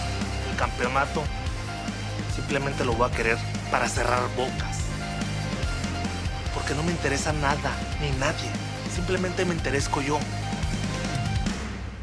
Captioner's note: speaking spanish